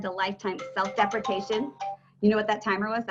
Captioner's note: phone ringing